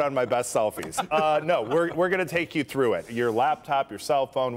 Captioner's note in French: laughter